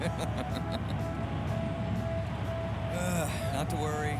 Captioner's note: Louie giggles